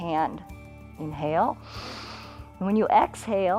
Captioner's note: inhales